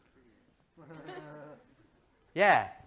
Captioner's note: laughter